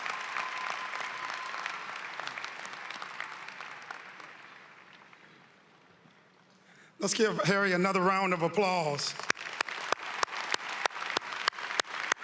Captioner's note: applause